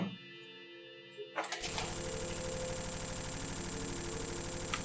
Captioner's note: signal buzzing